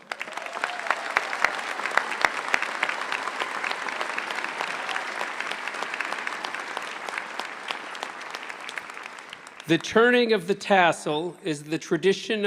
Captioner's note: applause